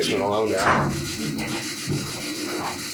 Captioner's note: door slams